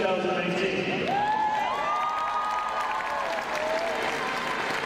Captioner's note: crowd cheering